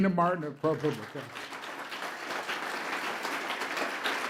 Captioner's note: applause